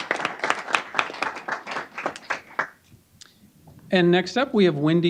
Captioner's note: applause